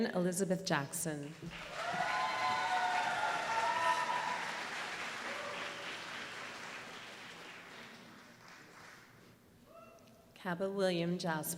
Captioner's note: applause